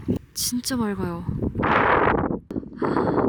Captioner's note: continued strong winds